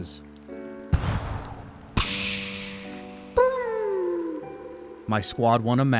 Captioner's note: boom, pshhh, bIMMM!